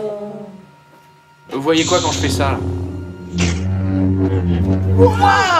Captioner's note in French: bruits de sabre laser